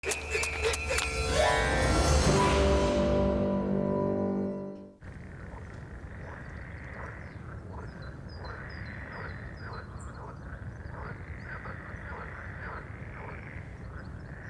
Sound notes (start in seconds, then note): 5.0 frogs croaks